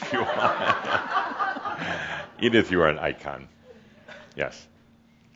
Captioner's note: Adamus chuckles and some audience laughter